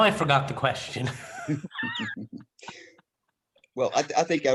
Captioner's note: laughter